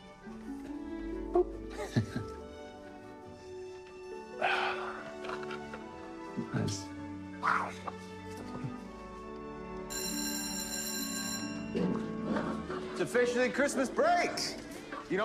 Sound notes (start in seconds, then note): 1.4 chuckling; 4.3 sighing; 9.8 bell ringing